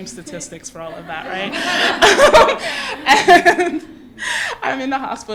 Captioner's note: laughter